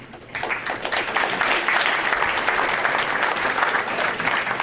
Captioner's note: audience applauding